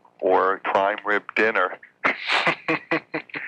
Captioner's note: laughing